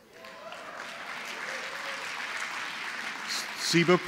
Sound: applause

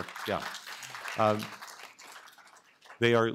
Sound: applause

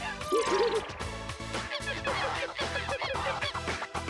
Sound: monkey cries

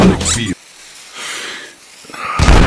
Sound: sighs while dynamite sizzles; screaming

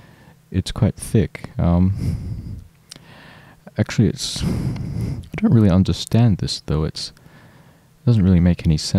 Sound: exhale

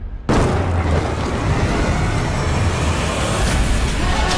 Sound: lightening bangs; dramatic music

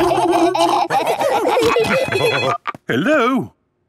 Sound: laughing; phone ringing

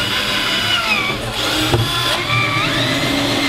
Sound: drill sounds

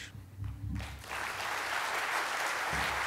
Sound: applause

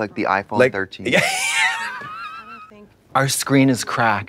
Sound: Katya guffaws

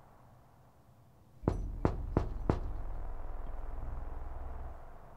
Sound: a knock, knock, knock at the door

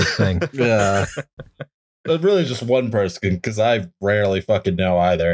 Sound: laughter

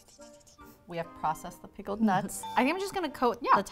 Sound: ding

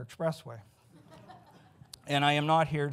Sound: audience giggles

